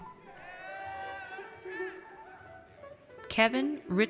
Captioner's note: audience cheers